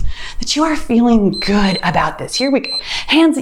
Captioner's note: timer beeps